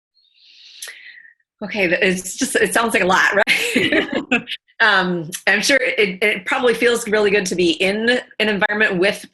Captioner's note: laughter